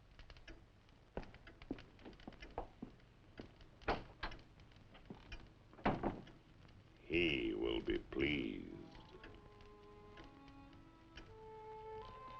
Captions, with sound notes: (door thudding) - He will be pleased. (slow eerie music)